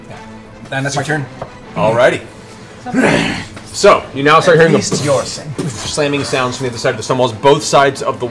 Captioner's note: boof, boof